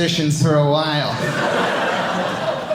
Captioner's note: audience laughing